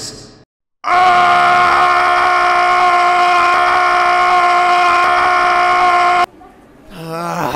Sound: painful screaming

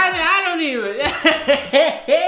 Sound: laughs

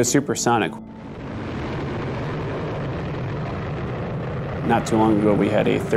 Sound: plane engine revving

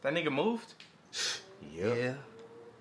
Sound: L Scoffs

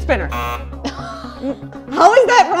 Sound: buzzer sounds

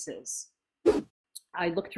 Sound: whoosh

